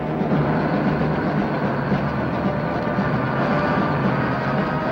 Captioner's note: truck engine whirring